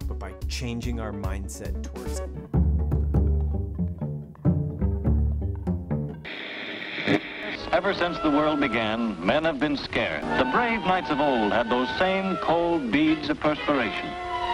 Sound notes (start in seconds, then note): 2.7 rhythmic jazz music; 6.5 TV static crackles